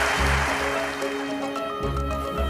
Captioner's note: applause